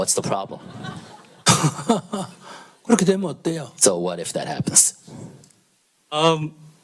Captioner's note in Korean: 스님과 청중 웃음